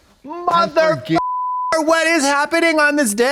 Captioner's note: beep